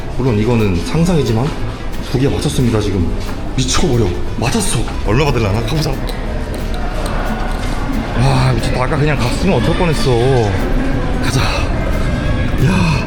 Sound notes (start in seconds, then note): 6.2 heart thump